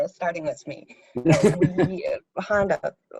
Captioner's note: interviewer laughing